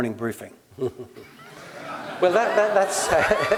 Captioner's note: laugh